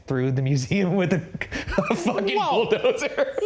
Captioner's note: chuckling